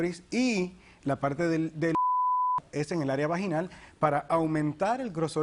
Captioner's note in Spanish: Bip